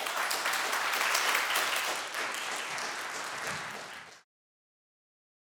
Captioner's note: applause